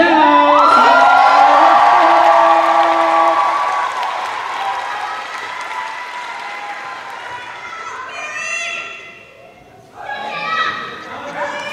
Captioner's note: cheers and applause